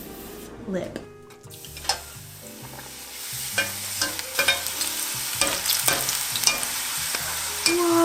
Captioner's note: sizzling